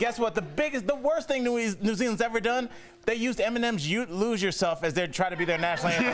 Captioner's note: laughter